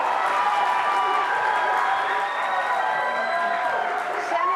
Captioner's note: applause